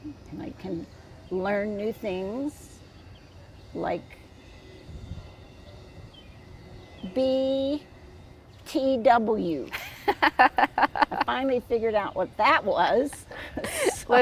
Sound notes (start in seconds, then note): 9.8 laughing